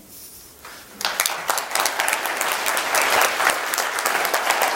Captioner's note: applause